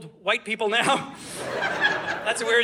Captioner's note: audience laughing